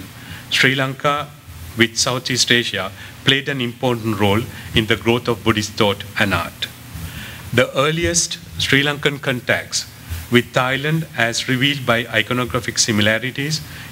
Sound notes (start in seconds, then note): 6.4 non-english